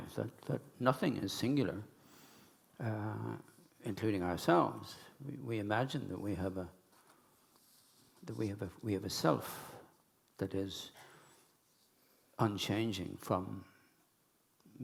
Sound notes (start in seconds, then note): none